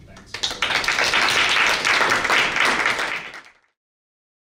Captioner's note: all applauds